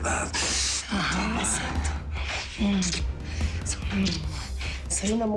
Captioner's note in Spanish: Hablan al unísono